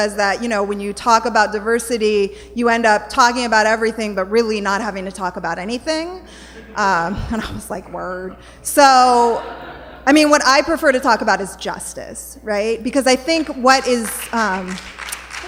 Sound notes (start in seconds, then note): 9.2 laughter; 14.0 applause